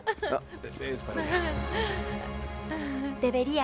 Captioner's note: Esperanza ríe